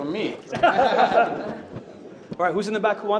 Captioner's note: attendees laughing